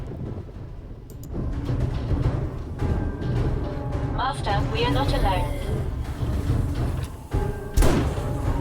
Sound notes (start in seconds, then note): 4.7 drone